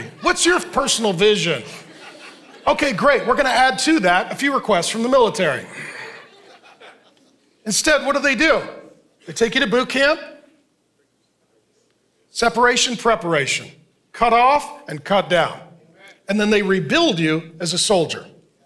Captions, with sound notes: "What's your personal vision? (congregation laughing) "Okay, great, we're going to add to that "a few requests from the military." (congregation laughing) Instead, what do they do? They take you to bootcamp, separation, preparation, cut off and cut down, and then they rebuild you as a soldier.